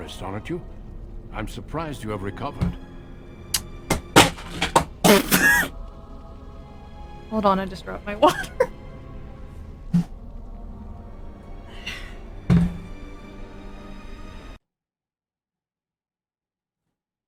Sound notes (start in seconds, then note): 3.4 crashing noises; 13.0 laughs